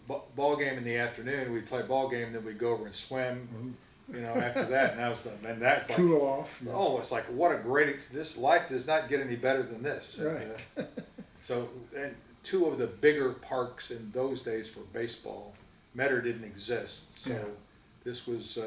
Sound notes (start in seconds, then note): 4.1 laughs; 10.2 chuckles